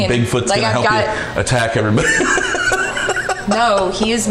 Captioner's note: laughing